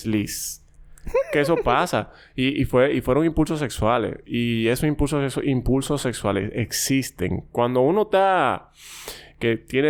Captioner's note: laughs